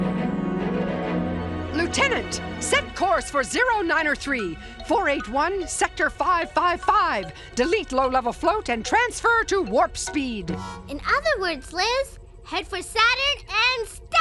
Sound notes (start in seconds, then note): none